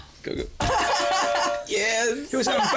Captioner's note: laughs